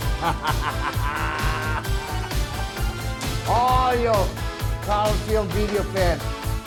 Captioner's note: laugh